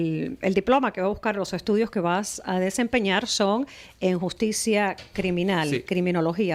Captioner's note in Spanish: Hablando ingl\s